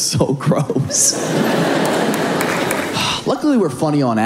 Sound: audience laughing

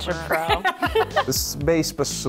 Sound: laughter

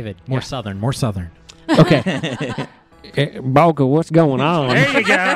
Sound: as Valdeen, over-emphasizing his accent

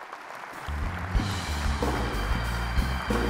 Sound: audience applauds; jazz music

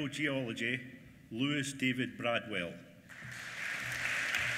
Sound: applause

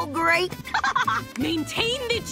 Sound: laughing

